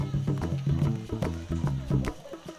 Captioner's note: village sounds